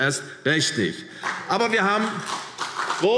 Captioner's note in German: Beifall CDU und BÜNDNIS 90/DIE GRÜNEN